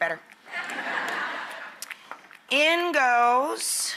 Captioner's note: audience laughs